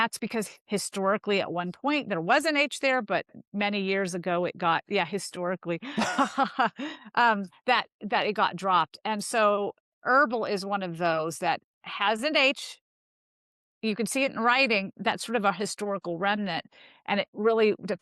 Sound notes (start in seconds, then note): 8.7 laughs